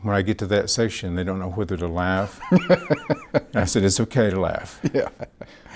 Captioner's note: laughs